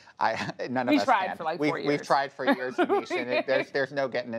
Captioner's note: laughter